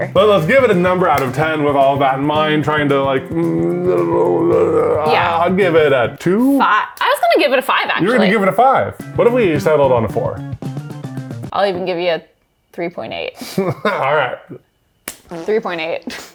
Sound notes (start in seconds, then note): 4.2 speaks gibberish